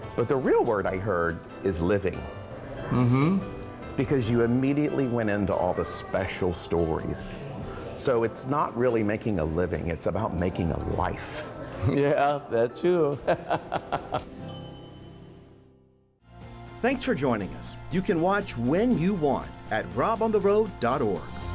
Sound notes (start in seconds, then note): 13.2 laughing; 14.4 bell ringing